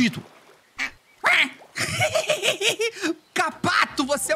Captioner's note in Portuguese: som de pato